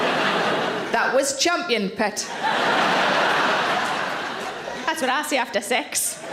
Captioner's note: audience laughs